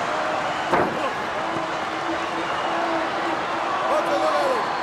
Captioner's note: body thuds